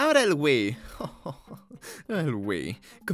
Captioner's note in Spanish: Risas de satisfacción